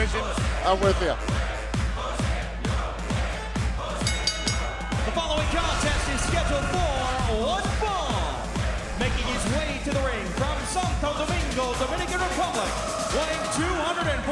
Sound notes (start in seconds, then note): 4.0 bell ringing